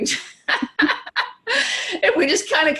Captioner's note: laughing